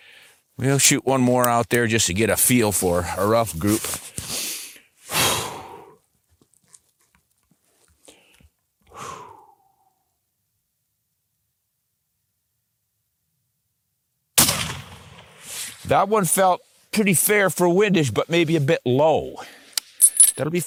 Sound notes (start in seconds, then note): 14.4 gunshot